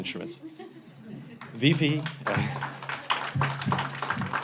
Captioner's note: audience applauding